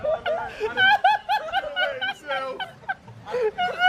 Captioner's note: laughs